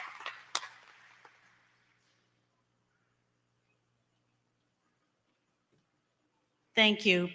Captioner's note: applause